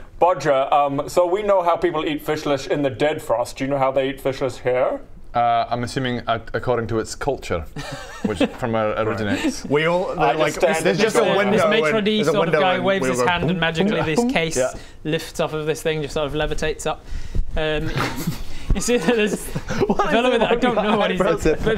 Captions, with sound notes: Bodger um so we know how people eat fishlish in the Dead Frost do you know how they eat fishlish here? I'm assuming according to its culture from where it originates We all like - I just stand at the door going - there's just a window - this maître d' - there's a window and we all go *boo boo boop* - sort of guy waves his hand and magically this case lifts off of this thing, just sort of levitates up um you see that there's What's that? - What is it with your eyebrows? - I don't know what he's doing!